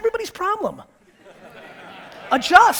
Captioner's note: audience laughter